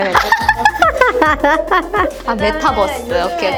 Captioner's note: laughter